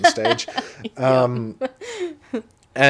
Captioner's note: laughing